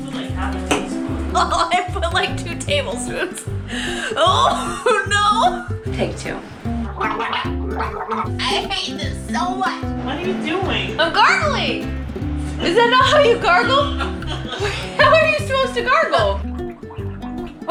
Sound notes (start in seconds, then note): 6.2 horrible choked gargle sound; 13.6 confused laugher